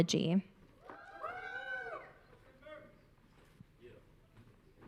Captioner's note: audience cheering